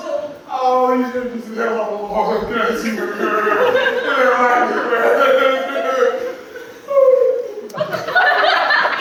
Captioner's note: wailing 3.0